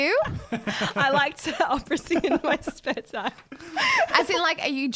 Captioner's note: laughs